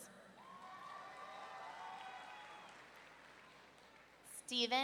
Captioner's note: audience cheering